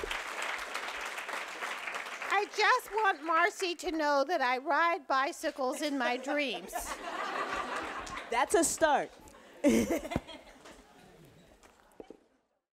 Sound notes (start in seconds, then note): 5.8 audience laughing; 9.6 laughing